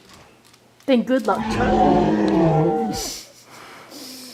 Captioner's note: roaring